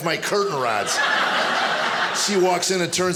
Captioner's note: audience laughing